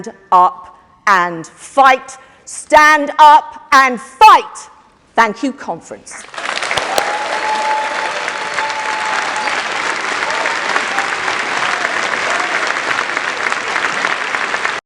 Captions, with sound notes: Bring hope. Stand up and fight. Stand up and fight. Thank you, conference. [APPLAUSE]